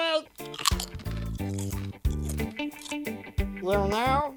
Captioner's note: rasta music; crunching